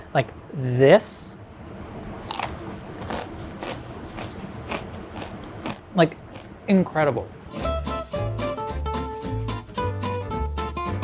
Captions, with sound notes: - Like this. [food crunching] Like incredible. [upbeat music]